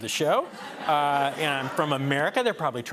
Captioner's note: laughter